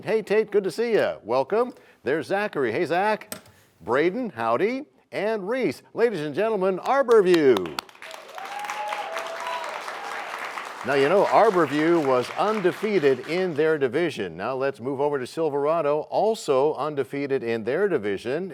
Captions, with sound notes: Hey, Tate, good to see you. Welcome. There's Zachary. Hey, Zach. Brayden, howdy, and Reese. Ladies and gentlemen, Arbor View. (applause) Now, Arbor View was undefeated in their division. Now let's move over to Silverado, also undefeated in their division,